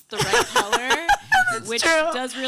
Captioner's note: laughing